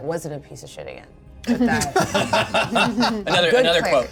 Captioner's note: laughter